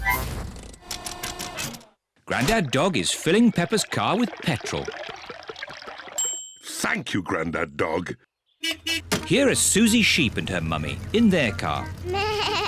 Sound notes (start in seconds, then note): 6.2 bell dings; 8.6 horn beeps